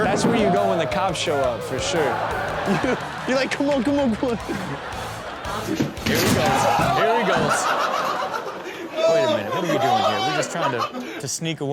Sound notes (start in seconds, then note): 4.7 chuckles; 5.3 audience laughing; 5.7 door banging; 8.0 frat bros laughing